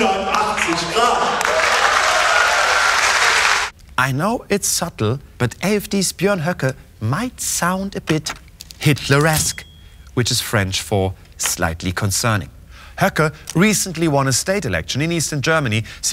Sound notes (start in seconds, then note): 0.0 cheers, applause